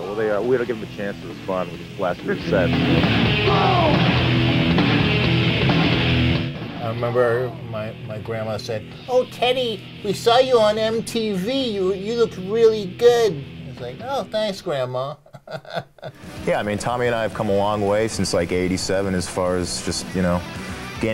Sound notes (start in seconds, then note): 15.2 laughs